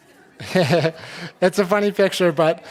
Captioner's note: laughing